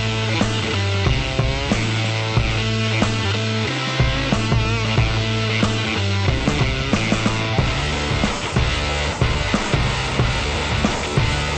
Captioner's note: aircraft motor roaring